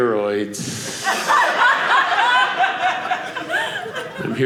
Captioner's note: audience laughing